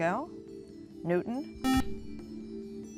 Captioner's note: buzzer